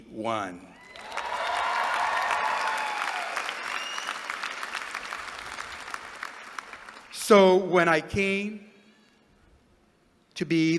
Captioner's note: applause